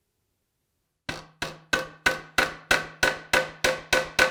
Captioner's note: nail hammering